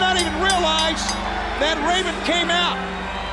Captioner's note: bell ringing